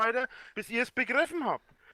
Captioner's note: inhales